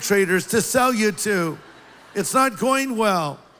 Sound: laughter

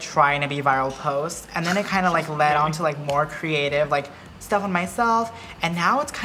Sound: laughs

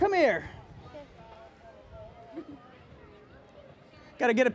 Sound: laughs

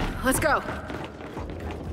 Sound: footsteps

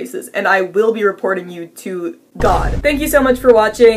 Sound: boom

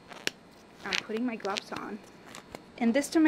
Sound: rubber gloves being snapped

